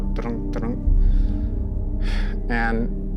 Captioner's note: exhales